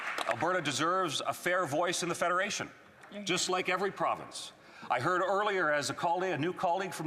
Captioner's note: applause